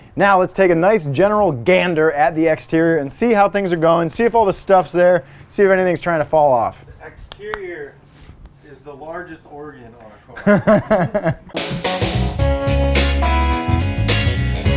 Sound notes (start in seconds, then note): 10.3 laughing; 11.4 upbeat music